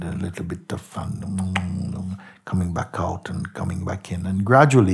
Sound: mimics kissing

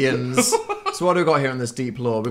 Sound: laughs

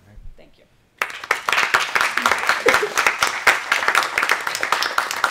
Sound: applause

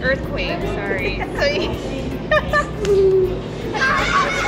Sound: laughing

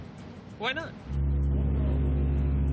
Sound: ship horn sounding off

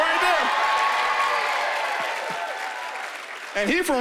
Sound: cheering and applause

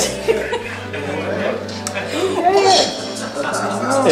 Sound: laughing

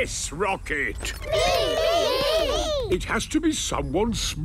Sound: calling out in turn

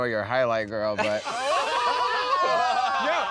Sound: laughter

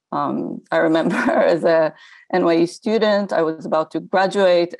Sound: chuckles

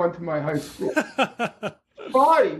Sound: laughter

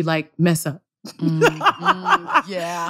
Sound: laughter

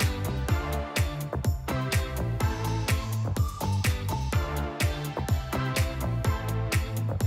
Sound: none

